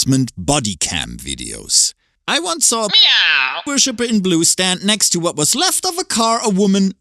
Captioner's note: meow